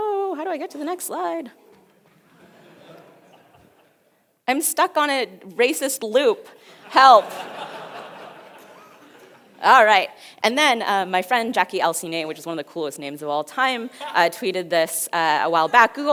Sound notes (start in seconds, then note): 1.6 audience laughs